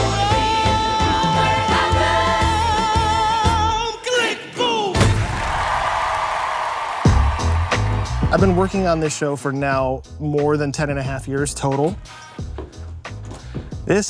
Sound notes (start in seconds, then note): 5.1 audience applauding and cheering; 12.2 upbeat music